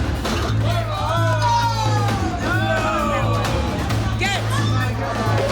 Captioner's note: dramatic music; bar patrons clamoring